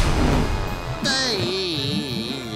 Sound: groaning

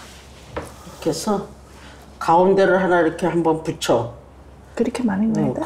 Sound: speaking Korean

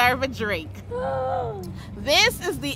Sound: gasps

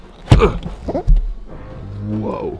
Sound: thudding sound

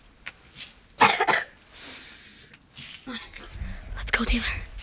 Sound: coughs

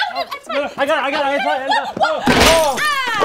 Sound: exclaim; glass shatters

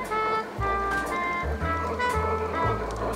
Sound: clattering

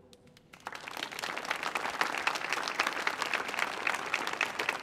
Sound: audience applauding

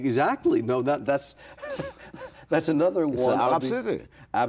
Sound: laughs

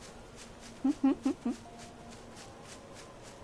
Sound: laughs

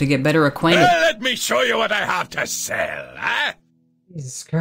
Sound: overly enthusiastic English shopkeep noises

